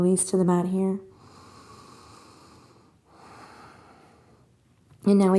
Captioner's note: inhales and exhales